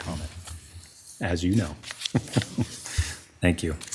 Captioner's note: chuckles